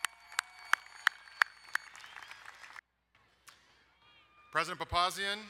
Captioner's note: crowd cheering and applauding